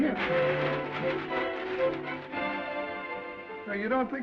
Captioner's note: upbeat music; bag rustling